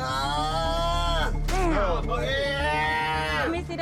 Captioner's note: groaning